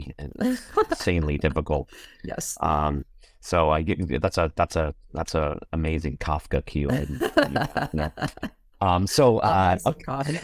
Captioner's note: laughter